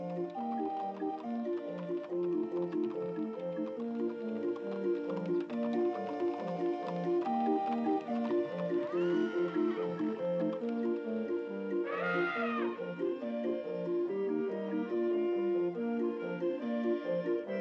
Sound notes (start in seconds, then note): 8.8 horse neighs; 11.8 elephant trumpets